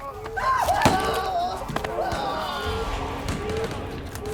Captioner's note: man yelling